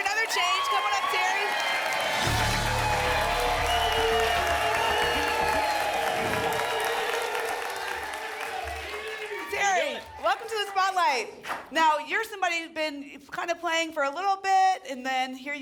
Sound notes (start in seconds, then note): 6.2 whoosh; 7.0 applause and cheering cont